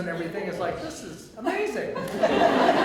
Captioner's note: audience laughter